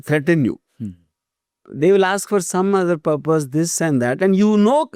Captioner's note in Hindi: गला साफ़ करने की आवाज़